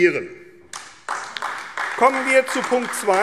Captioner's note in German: Beifall AfD